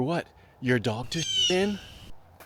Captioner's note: squawk